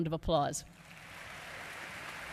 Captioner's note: applause